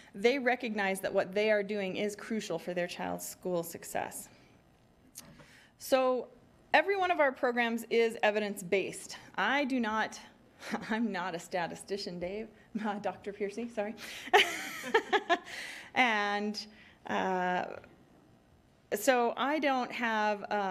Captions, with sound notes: They recognize that what they are doing is crucial for their child's school success. So every one of our programs is evidence based. I do not, I'm not a statistician Dave, Dr. Peercy, sorry. (laughing) And, so I don't have